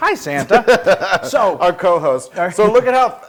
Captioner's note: laugh